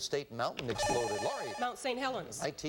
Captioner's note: buzzer